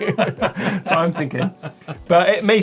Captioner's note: laughs